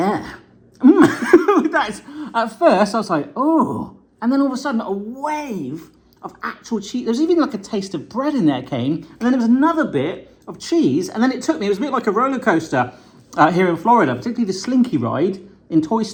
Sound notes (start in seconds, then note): 0.8 laughing